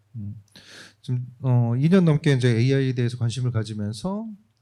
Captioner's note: speaking korean